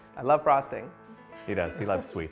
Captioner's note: laughter